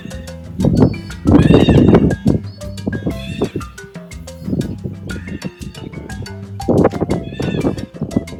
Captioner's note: otter calls and music